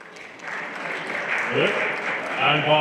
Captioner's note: everyone applauding